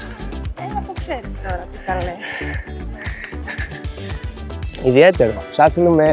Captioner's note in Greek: γέλια